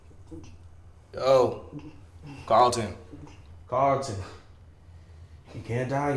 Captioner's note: Carlton gargles